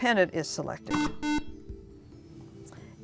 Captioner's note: beeping